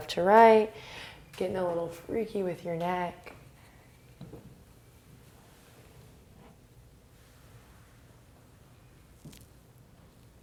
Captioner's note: breathing